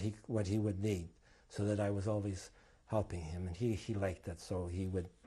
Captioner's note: none